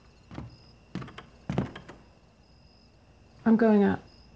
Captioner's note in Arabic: صرير ألواح الأرضية